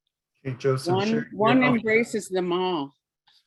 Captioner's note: speaking Inupiaq